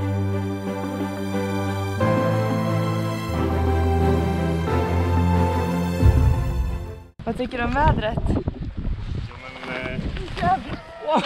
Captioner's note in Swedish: skrattar